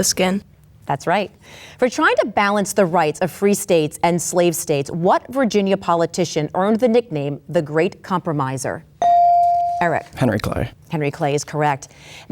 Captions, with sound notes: - The skin. - That's right. For trying to balance the rights of free states and slave states, what Virginia politician earned the nickname, The Great Compromiser? (bell dings) Eric. - Henry Clay. - Henry Clay is correct.